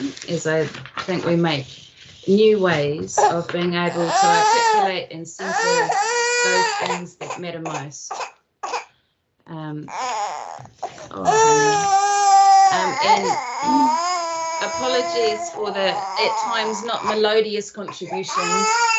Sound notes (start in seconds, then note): 5.4 baby crying; 12.3 baby cries; 13.7 clears throat